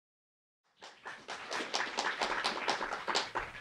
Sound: clapping

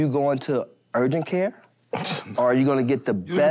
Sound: scoffs

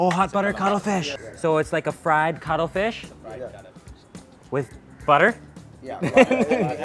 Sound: laughs

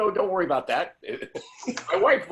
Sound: laughter

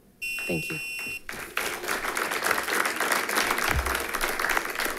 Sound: audience applauds

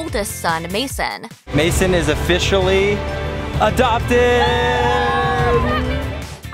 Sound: cheers

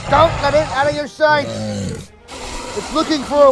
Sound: metriacanthosaurus Sounds

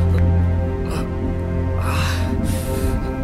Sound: groans

